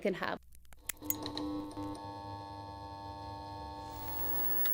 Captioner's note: lights buzzing